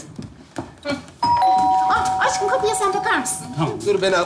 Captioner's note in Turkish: Zil çalar